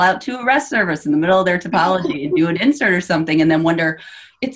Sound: laughs

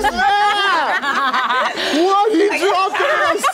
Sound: all laughing

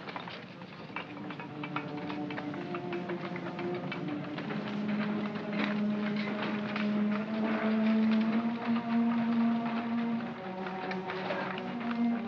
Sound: sounds of shoveling & tapping; gloomy music

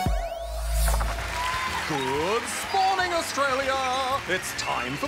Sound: cheering, applause

